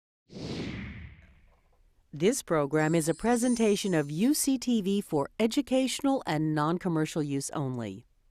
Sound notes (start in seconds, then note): 0.3 air whooshing